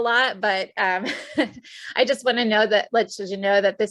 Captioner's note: chuckles